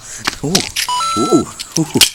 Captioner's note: coin sound effect